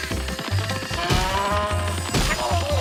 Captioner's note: crows squawk; cow moos; man grunts